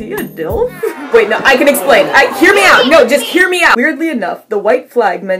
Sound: crowd booing

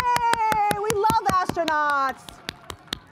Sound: applause

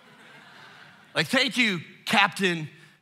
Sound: congregation laughing

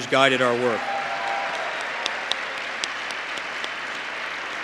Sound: applause

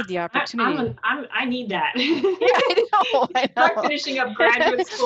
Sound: laughing

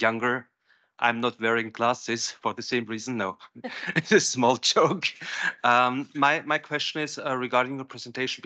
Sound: laughs

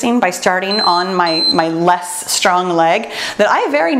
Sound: timer beeps

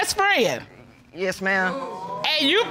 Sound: audience exclaims

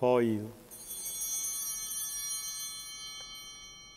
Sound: bell ringing

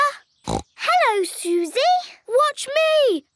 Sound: snorts

